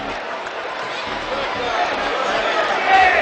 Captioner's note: cheering